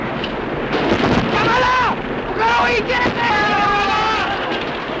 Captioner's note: speaking japanese